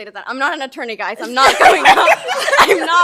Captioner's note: laughs